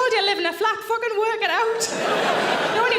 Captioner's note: audience laughing loudly